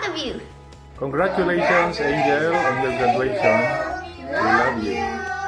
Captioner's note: in Unison